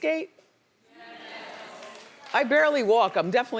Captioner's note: audience responding